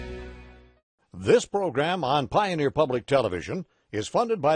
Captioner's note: voiceover